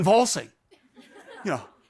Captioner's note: audience laughs